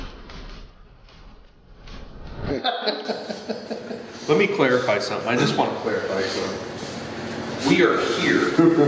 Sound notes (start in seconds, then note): 2.5 laughing